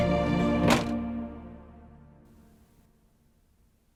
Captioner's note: door slams